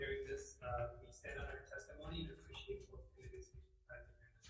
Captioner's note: speaks faintly